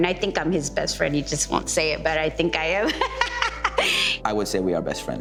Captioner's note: laughing